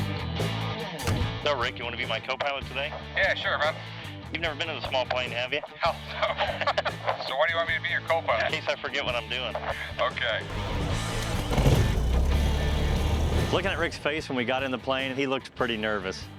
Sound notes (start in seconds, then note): 6.1 laughs; 10.5 propeller whirring